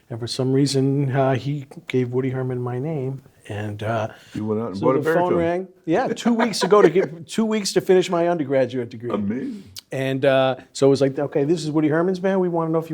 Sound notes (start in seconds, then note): 6.2 laughs